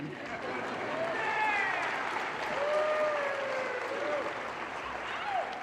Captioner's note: audience laughter and cheers